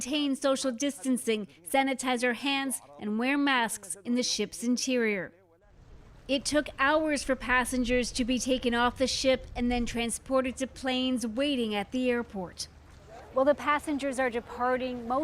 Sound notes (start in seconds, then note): 3.1 speaking alternate language